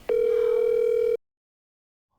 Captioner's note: phone ringing